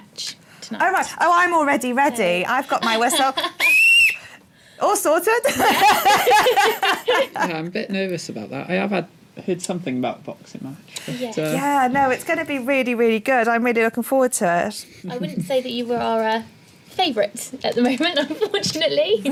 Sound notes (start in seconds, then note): 3.6 whistle blows